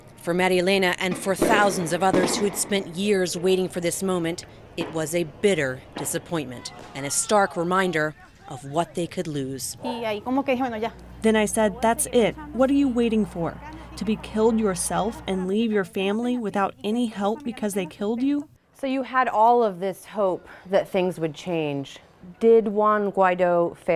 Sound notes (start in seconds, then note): 10.5 through translator